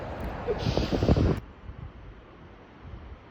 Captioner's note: wind; cry